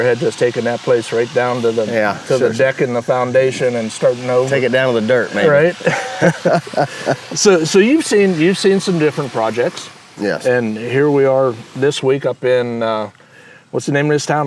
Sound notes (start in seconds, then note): 5.6 both laugh